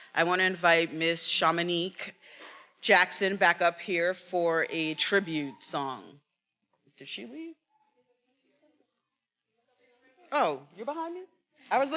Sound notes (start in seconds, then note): 8.2 faculty member speaking faintly